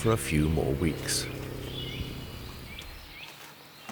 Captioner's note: wildcat purring